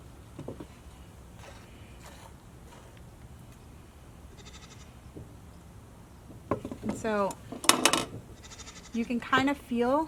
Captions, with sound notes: (milk squirting into bucket) And so, you can kind of feel